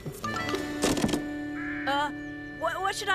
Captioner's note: thud!